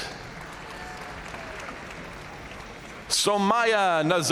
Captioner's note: audience cheering and applauding